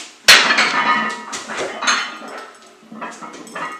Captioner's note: metal clanking